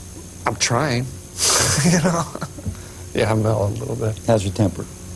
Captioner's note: laughs